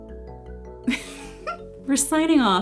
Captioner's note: laughs